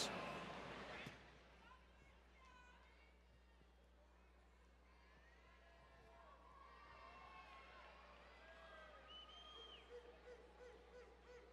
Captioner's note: faint Cheering